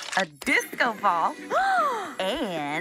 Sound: gasping

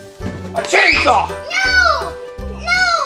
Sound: screams

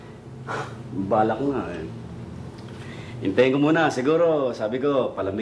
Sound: sighs

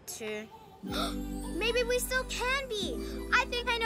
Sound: gasps

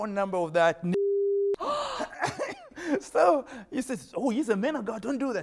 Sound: beep

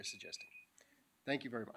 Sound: beeping

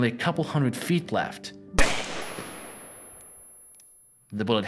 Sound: gunshot

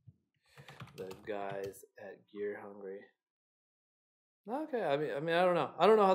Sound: keyboard clicking

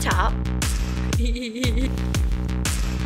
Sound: laughing

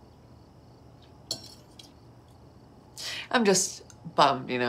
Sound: fork scrapes

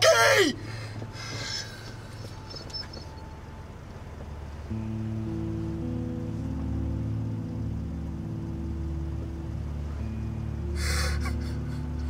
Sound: crying; sobs

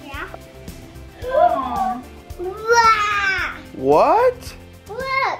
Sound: gasps

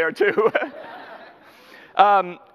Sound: audience laughter; laughs

